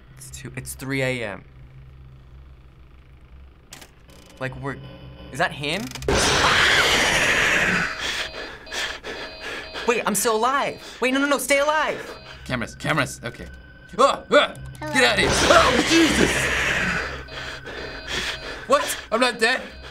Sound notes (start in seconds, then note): 6.2 shrieking; 6.2 in game: growl; 7.9 in game: frantic panting, alarms buzzing; 14.9 in game: growl; 15.9 in game: frantic panting